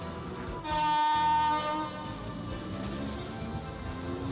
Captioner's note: horn honks